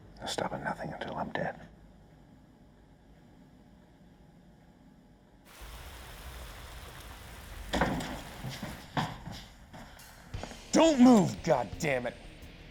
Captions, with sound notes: They'll stop at nothing until I'm dead. (rain pouring) - Don't move, goddamn it.